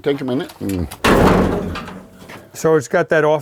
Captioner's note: hood clanging